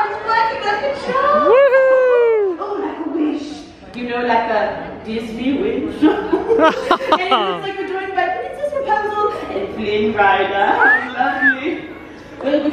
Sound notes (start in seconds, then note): 1.5 cheering; 6.5 laughing